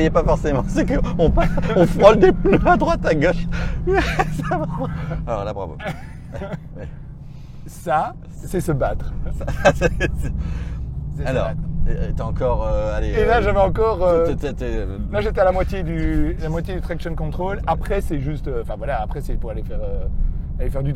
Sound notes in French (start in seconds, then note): 5.7 Rires; 9.0 Rire